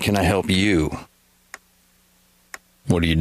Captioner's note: clock ticking